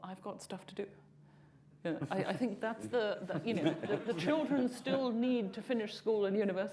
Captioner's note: laughter